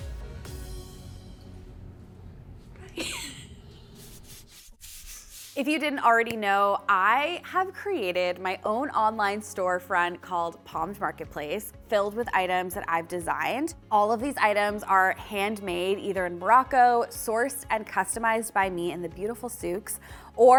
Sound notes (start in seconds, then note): 2.8 snickering; 3.6 roller swishing; 6.4 hands clapping